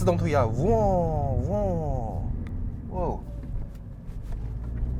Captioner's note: down shift sound